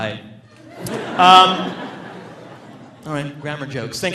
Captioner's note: audience laughing